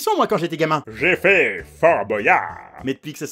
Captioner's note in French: ton de vantardise